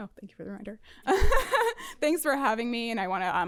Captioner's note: laughter